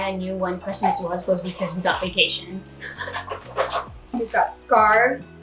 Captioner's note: laughs